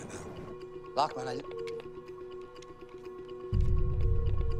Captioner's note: beeping